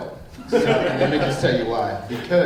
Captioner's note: group laughing